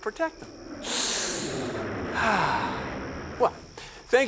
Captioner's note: inhales, exhales